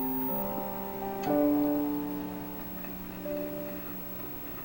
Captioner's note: lighter clicks